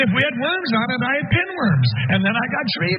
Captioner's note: laugh